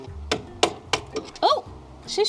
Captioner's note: hammering